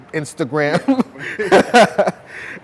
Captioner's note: laughs